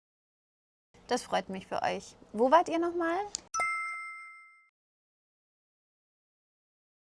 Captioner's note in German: glocke